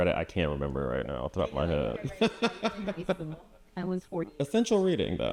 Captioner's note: chuckles